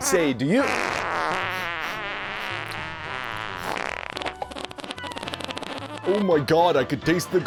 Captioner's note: sniffing and tasting the air